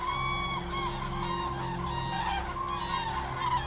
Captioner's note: cranes cawing